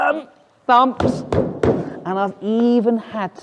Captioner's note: fist thumps